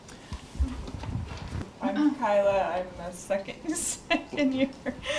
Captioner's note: laughs